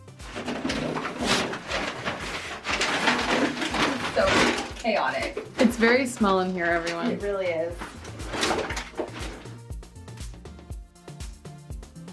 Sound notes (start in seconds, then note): 0.8 paper ripping; 8.3 upbeat music